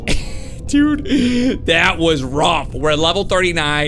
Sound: laughs

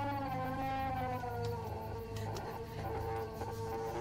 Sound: shrieking

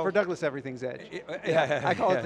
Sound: laughs

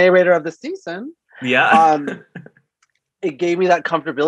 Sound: laughs

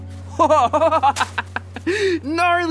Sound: Dylan laughing

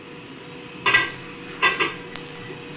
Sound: interference

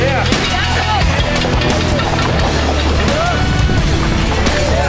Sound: crowd; uplifting music; crowd; uplifting music

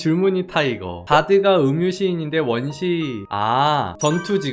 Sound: voiceover

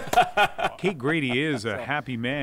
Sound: laughs

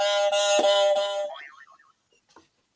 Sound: honking; boing

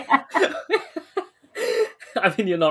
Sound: laughing; both laughing

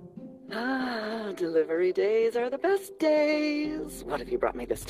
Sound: sighs

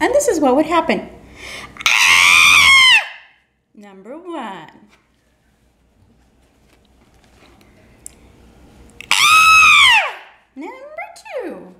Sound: scream

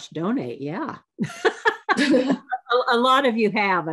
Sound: laughs

